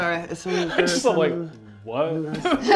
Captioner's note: laughter